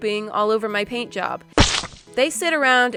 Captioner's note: weird squish bird poop noise